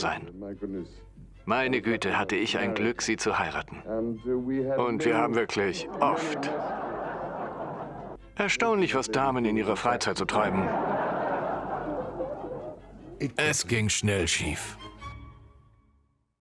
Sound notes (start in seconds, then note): 5.9 audience laughs; 10.6 audience laughs